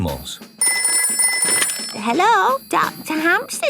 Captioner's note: ringing